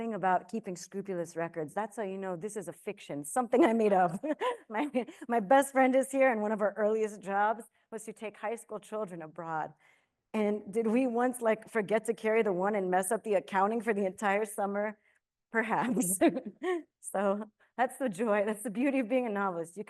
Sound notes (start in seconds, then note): 4.0 chuckles; 15.8 chuckles